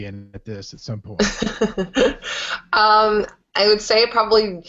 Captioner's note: laughing